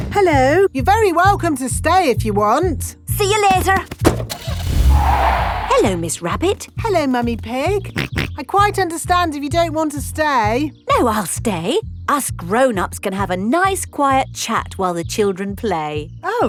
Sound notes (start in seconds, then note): 3.9 car starting; 4.2 tires screeching; 7.9 snorts